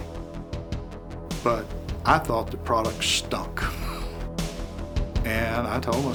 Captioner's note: laughs